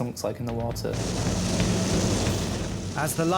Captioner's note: waves roaring; bright music